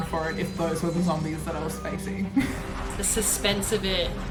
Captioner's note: laughs